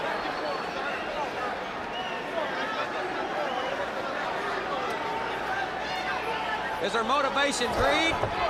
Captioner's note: crowd chatter